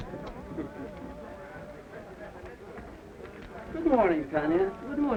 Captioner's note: people chattering